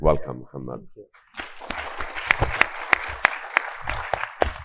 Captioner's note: audience applauding